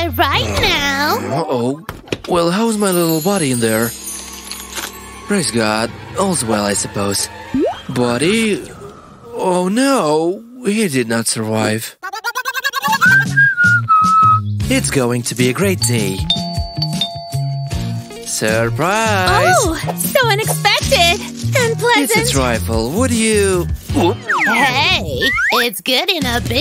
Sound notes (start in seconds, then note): 12.9 whistles smugly; 20.2 sniffs it noisily